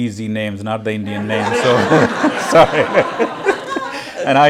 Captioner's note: laughter